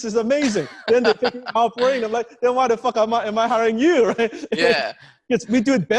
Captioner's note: laughing